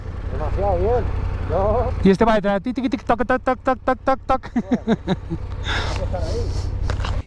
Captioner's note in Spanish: risas